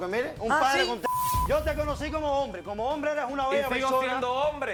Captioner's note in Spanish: Bip